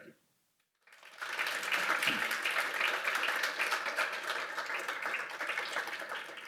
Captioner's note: applause